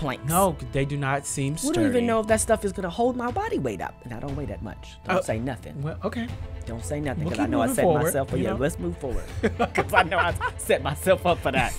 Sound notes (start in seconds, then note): 9.4 laughing